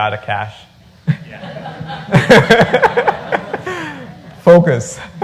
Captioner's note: laughter